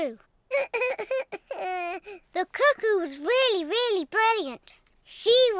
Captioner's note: sobs